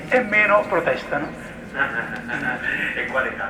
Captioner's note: fake laughing